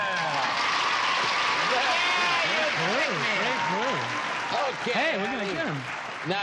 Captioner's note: applause